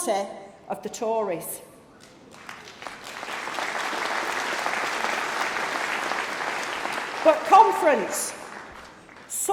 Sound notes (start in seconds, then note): 7.1 applause